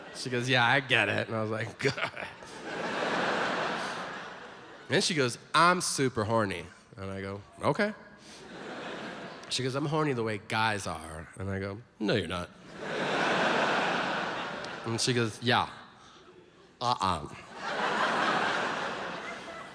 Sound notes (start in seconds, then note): 3.5 audience laughs; 12.6 audience laughs; 17.2 audience laughs